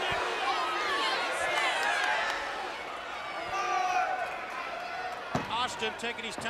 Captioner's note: crowd chatter